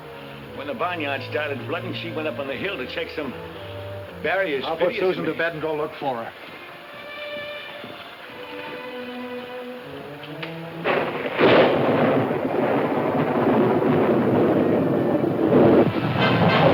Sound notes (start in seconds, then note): 7.6 soft music; 9.9 thunder claps